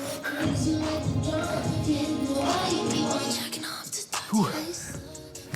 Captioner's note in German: Flüsternd